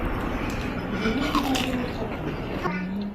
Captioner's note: crunch